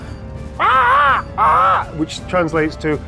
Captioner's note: imitates a crow cawing